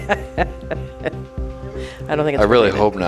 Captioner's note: laughs